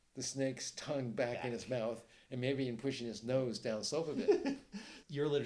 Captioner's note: delighted giggles